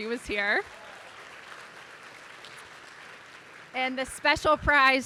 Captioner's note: audience applauding